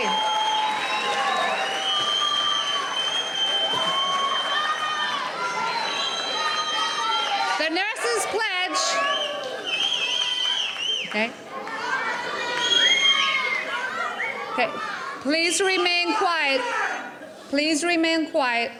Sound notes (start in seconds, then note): 11.4 cheering